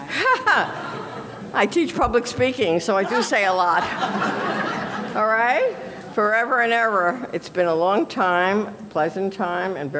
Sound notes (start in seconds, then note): 2.9 audience laughing